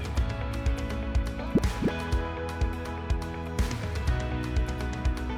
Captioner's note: graphic pops